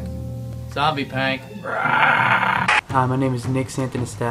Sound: growls

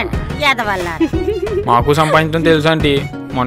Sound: Subhadra laughing

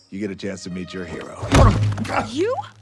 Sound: loud thud

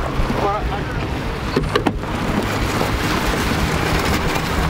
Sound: tow truck engine rumbles

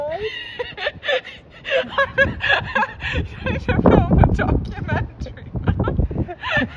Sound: laughing

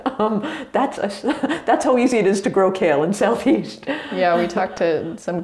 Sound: laughs

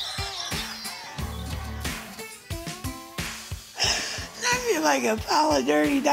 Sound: laughs

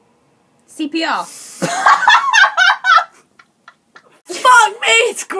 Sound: pissing themselves with laughter

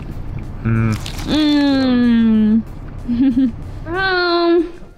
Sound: humming

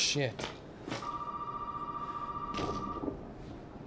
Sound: phone ringing

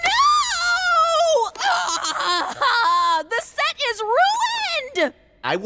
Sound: groaning

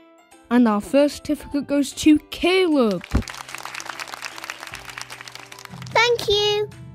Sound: applause

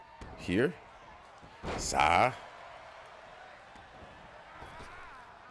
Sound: applause; applause

